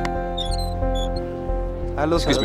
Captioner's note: Door opens